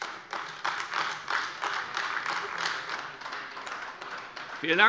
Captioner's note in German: Beifall AfD